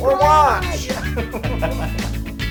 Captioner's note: laugh